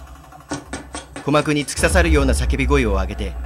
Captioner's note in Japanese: 走る足音：タタタタ...！